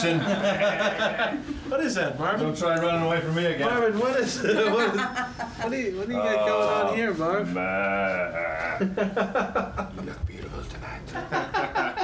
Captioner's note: sheep sound